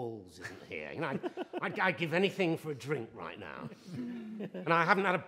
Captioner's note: laughter